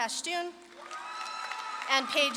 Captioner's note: audience claps and cheers